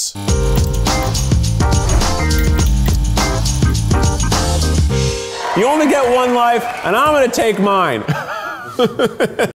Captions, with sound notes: (funky outro music) You only get one life. And I’m going to take mine. (laughing)